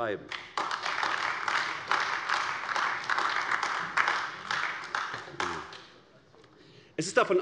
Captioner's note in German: Beifall AfD